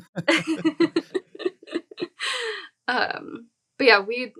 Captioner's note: chuckles; chuckling